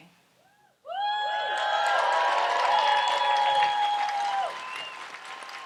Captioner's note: audience applauds and cheers